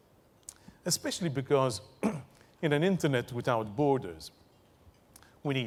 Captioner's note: cough